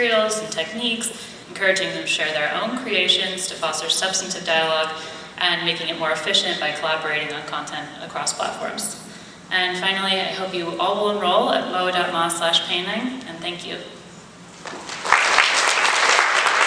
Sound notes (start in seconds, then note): 14.6 audience applauding